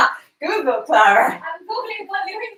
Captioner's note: laughs